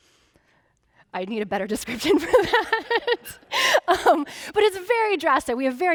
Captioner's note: laughing